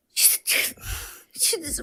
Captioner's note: sobs